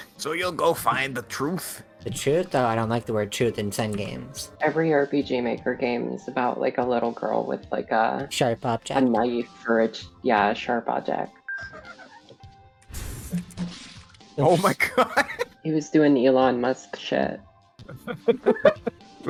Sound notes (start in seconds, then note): 14.7 laughing